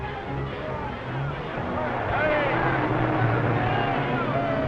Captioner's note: crowd murmuring